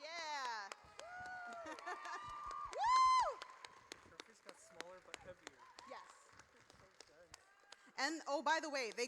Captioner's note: audience cheers